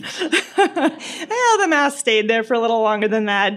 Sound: laughter

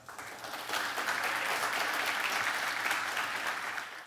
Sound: audience applause

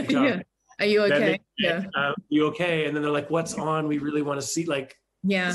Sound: chuckles

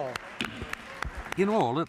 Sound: applause

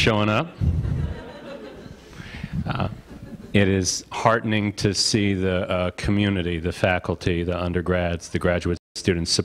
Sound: audience laughter

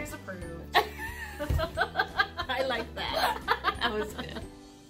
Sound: both laugh

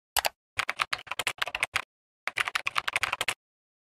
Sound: keyboard typing

